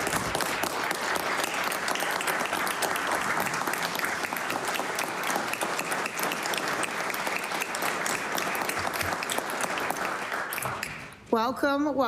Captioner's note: applause